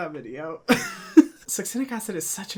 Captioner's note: laughs